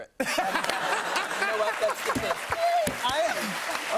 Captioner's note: laughter